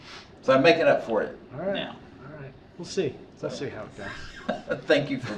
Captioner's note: laughter